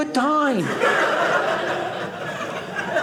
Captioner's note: audience laughing